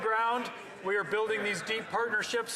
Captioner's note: some Applause